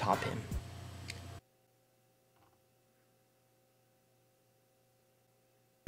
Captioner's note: gay silence as he realizes everything